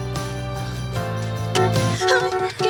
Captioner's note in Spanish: Suena el cláxon